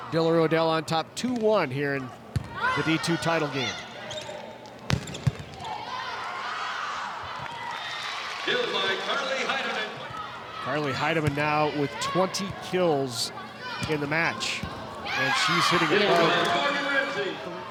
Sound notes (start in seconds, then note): 4.8 ball thumping; 6.0 players shouting indistinctly; 6.8 audience cheering